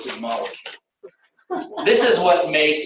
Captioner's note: laughter